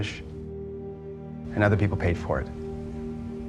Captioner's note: voiceover; voiceover